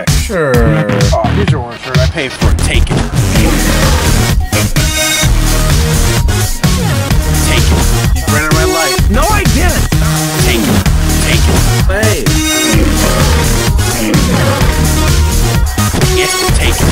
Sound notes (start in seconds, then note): 5.1 laughs; 12.6 lion growling; 13.2 upbeat music continues